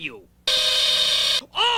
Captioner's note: terrible buzzing that sounds like the doorbell to satan's sphincter